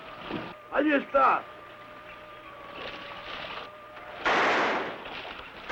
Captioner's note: speaking in foreign language; gun firing